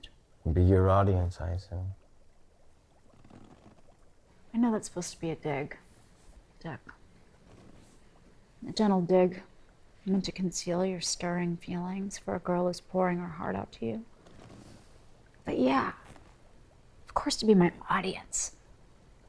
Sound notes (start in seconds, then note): none